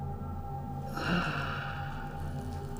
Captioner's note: grunts, stretches